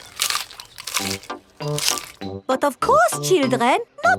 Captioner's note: munching